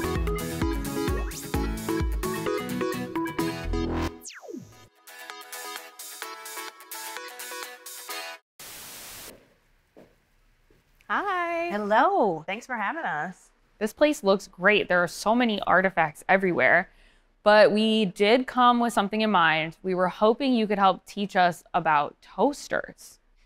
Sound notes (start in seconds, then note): 0.2 upbeat music continues; 8.6 television static